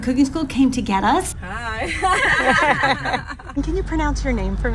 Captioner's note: laughing